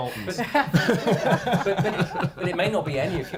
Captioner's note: laughing